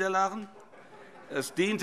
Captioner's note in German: Heiterkeit